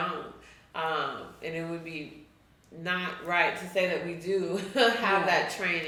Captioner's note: chuckles